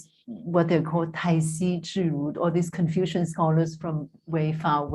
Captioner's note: non-english